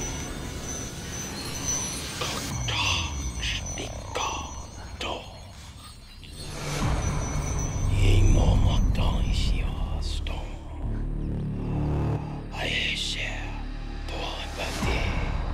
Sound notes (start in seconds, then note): 1.1 speaking in foreign language